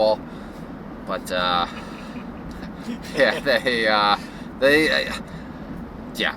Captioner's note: laughs